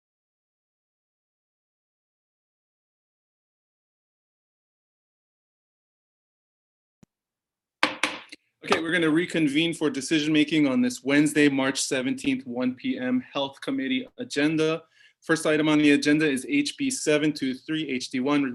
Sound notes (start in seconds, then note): 7.8 gavel pounds